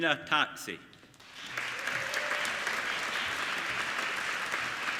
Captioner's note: applauding